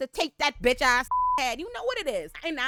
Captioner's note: beep